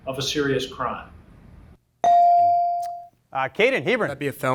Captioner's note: bell rings